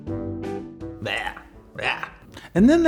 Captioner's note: cheerful music; groans